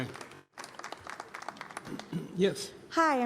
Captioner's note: applause